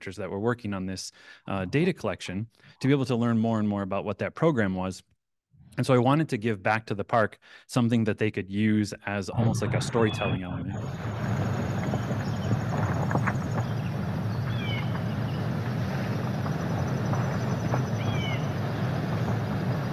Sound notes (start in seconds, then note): 10.6 waves crashing; 11.6 bird chirping